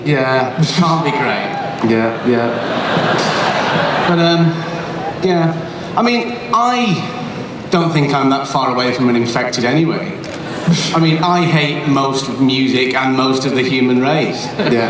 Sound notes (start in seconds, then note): 1.9 laughter